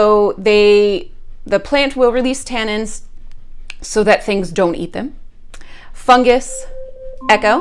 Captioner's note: alarm